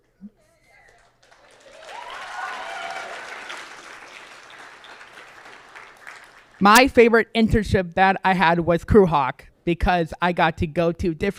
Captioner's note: applause